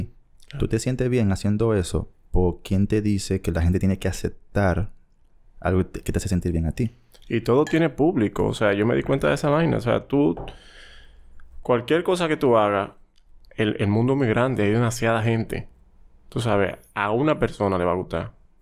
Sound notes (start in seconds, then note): none